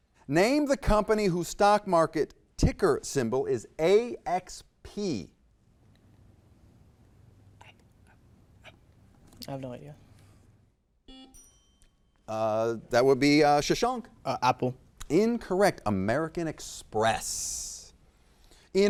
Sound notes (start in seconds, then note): 11.0 buzzer beeps; 11.1 bell dings